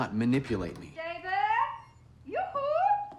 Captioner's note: door opens